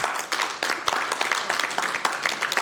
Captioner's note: applause